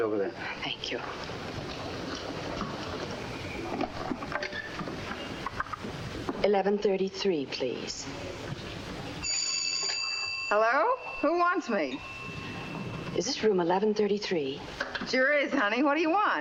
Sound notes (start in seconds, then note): 9.2 telephone rings